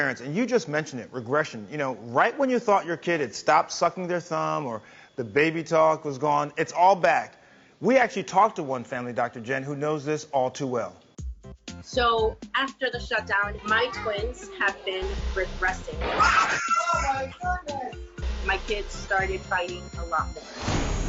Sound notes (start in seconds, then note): 16.0 kids screaming